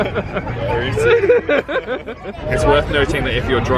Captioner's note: laughs